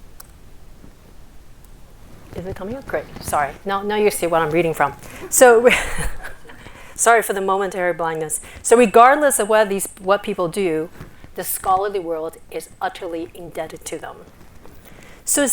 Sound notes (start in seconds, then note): 5.0 laughs